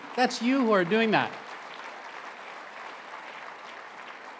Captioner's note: applause